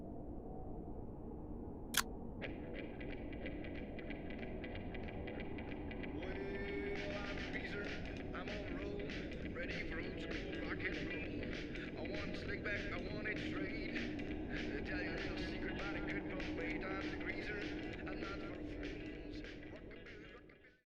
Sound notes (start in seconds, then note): 1.7 radio turns on